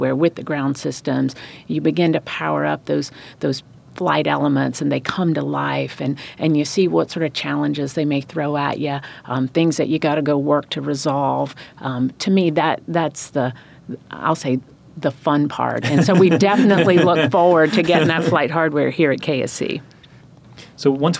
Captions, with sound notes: with the ground systems. You begin to power up those flight elements, and they come to life. You see what sort of challenges they may throw at you...things that you've got to go work to resolve. To me, that's the...I'll say the fun part (laughing). So we definitely look forward to getting that flight hardware here at KSC.